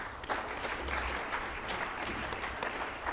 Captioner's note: applause